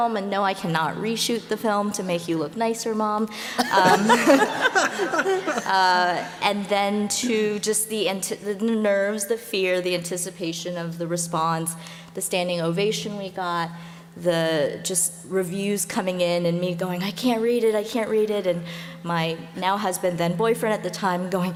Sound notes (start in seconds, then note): 3.6 laughter